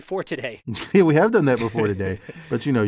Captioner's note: laugh